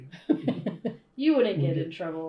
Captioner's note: laughter